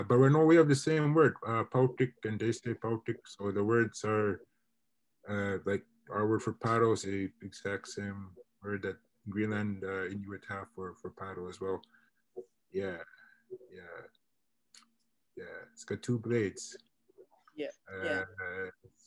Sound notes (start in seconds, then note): 1.8 foreign language